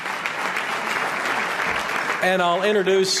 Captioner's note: applause